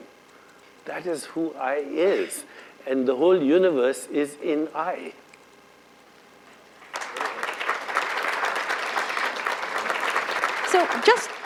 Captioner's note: applause